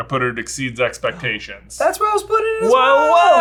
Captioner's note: gasps